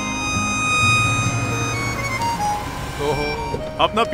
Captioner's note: Car approaching